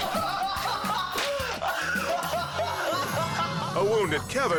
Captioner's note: laughing